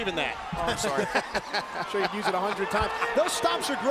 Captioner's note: laugh